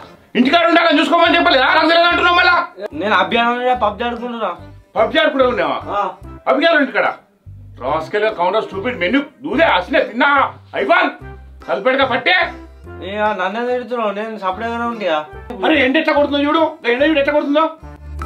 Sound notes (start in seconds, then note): 7.7 scolding randomly